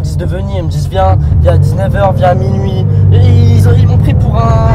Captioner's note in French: parle au téléphone